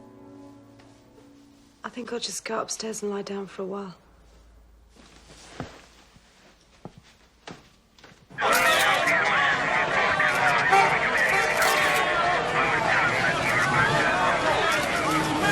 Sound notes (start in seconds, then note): 9.9 horn honking